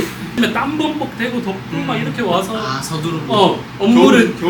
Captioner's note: passionate speech